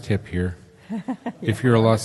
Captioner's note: laughs